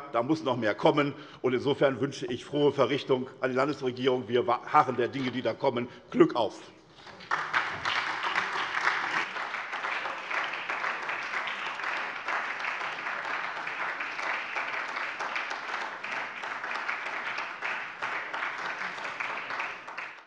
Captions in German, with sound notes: da muss noch mehr kommen. Insofern wünsche ich der Landesregierung frohe Verrichtung, wir harren der Dinge, die da kommen. Glück auf. [Beifall SPD]